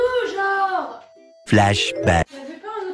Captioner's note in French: Son "flashback" de Bob l'éponge